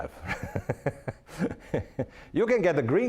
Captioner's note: laughing